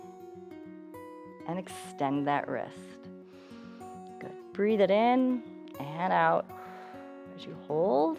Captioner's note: exhales